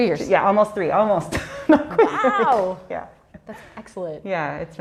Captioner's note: laughs